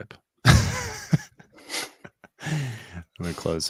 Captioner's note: chuckling